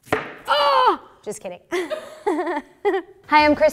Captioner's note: screams; both laughing